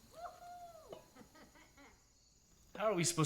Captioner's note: person hooting and laughing